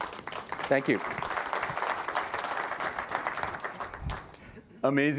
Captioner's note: applause